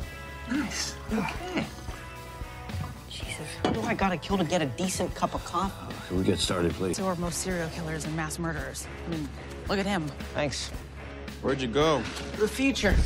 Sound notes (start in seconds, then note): 3.1 whispers